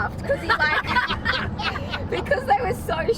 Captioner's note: cheerleaders laughing